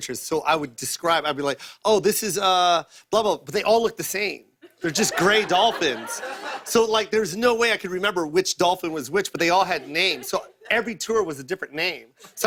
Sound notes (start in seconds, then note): 4.6 laughter